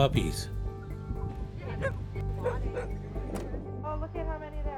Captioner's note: barking